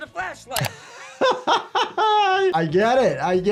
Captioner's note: doctor laughs